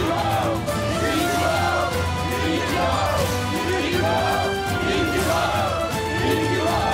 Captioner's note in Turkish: Hep bir ağızdan